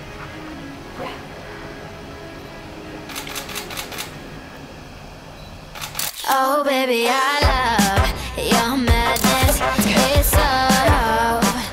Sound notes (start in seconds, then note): 3.1 camera shutter clicking; 8.9 upbeat music